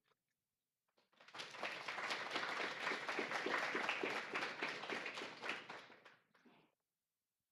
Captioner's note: audience applauding